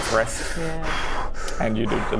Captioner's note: heavy goblin breathing